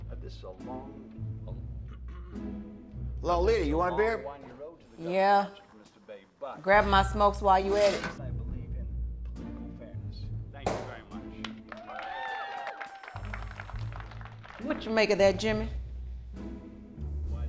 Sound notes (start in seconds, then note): 11.3 group applauds; 11.8 group cheers